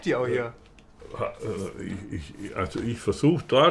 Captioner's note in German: Er stammelt